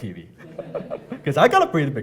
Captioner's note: laughing